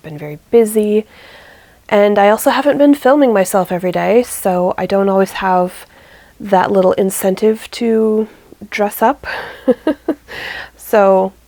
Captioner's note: laughs